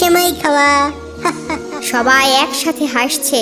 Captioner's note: laughing